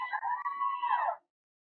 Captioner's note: cheering